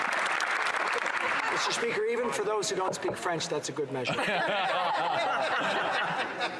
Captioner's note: applause